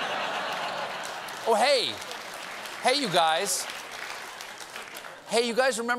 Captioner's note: laughter